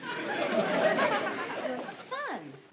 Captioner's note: audience laughter throughout